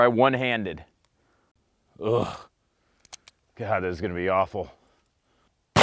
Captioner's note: grunting